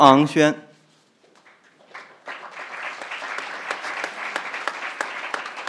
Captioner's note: crowd applauding